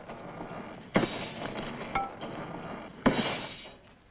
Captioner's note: doors creak; doors clang